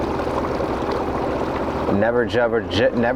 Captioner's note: river babbling; engine idling